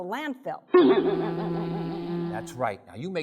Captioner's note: boing!; buzzing!